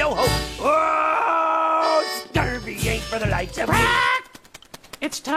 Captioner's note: squawking